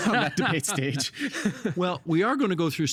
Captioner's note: laughing